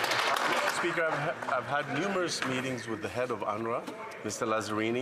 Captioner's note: some Applause